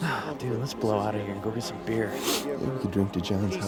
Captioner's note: sighs